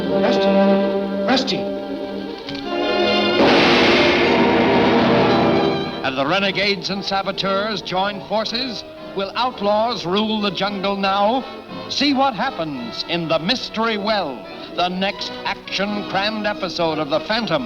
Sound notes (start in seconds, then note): 2.6 bomb blasts